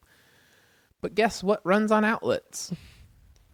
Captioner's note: laughs